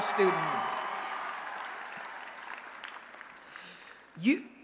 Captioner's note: applause and Cheering